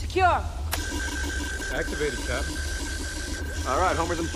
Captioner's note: beeping